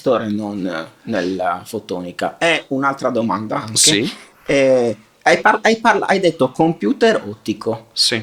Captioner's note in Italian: sbuffare